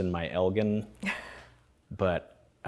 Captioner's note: laughter